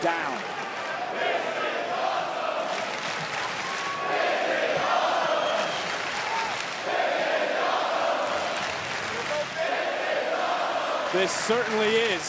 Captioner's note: crowd chants "this is awesome"